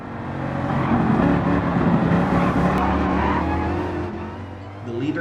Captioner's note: engines revving, cars noises